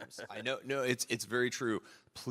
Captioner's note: laughter